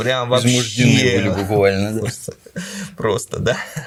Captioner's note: laughs